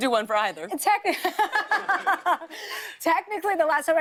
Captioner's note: laughter